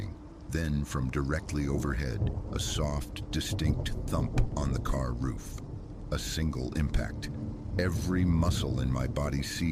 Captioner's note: thump